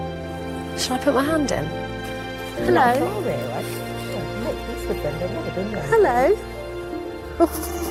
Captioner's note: laughter